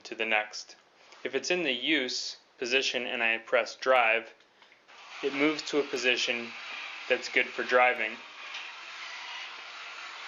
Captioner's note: buzz